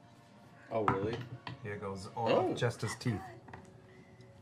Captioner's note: quietly